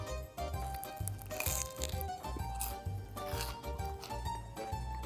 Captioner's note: bread crunching